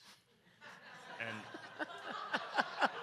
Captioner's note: audience laughs